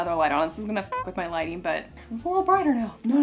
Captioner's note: honks